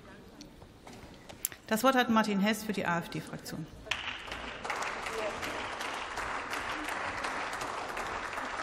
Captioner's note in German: Beifall